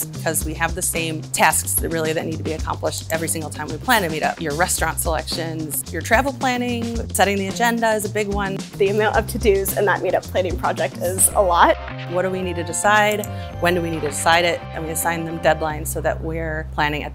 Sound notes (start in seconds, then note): 13.4 mouse clicking